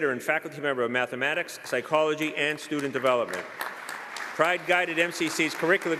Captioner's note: applause